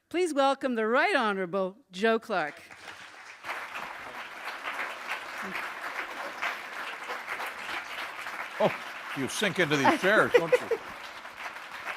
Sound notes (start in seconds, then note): 2.5 applause; 6.6 chuckle